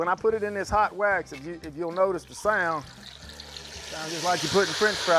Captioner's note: loud sizzling